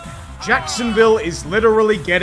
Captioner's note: nyooooom!